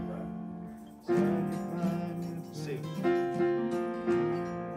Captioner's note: humming